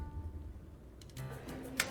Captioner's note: typing